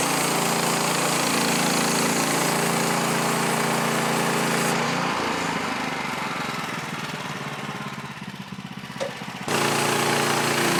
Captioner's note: motor running